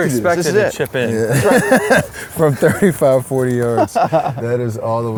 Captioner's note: laughs